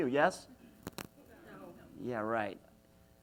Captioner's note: audience mumbling